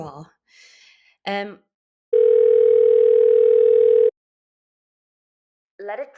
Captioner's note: phone rings